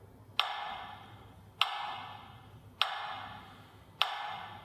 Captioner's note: sound of ticking at regular intervals